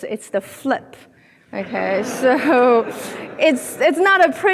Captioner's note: audience laughing